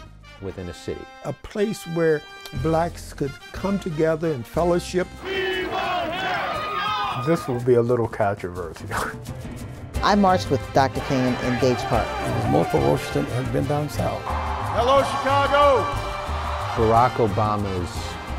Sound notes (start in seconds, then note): 5.2 crowd